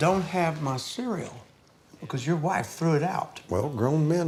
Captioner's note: none